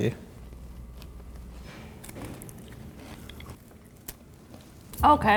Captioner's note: soft crunching